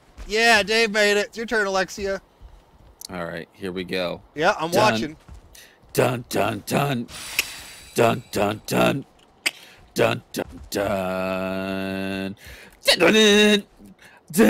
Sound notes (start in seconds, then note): 7.1 clicks; 12.9 singing intensifies